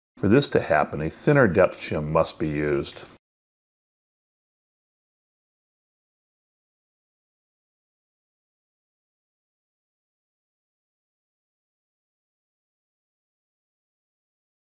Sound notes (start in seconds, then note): 2.9 silence